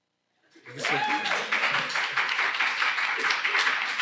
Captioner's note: applause